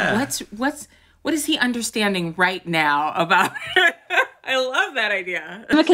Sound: laugh

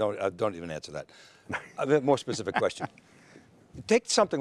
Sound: panel members laugh

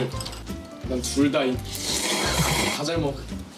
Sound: slurping

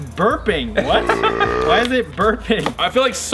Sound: laughs; burping

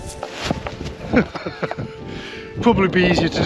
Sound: laughs

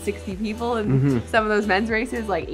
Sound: hums agreeingly

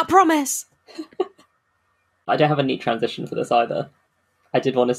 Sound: laughs

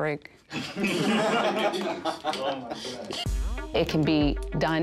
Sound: laughing

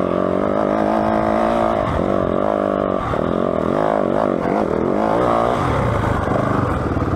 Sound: engine revving

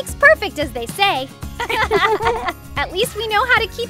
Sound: both girls laugh

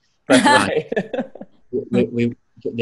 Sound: laughter

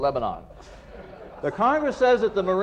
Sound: laughter

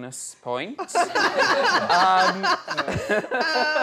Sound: laughter

